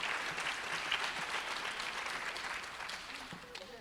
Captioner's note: applause